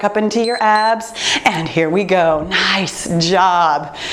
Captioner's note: timer beeps